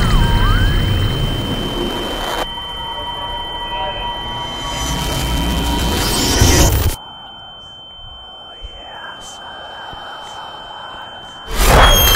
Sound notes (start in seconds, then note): 7.5 demonic whispers